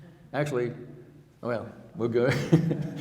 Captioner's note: chuckling